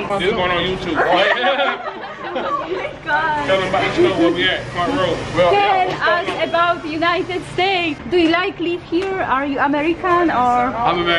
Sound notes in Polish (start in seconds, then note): 1.0 śmiech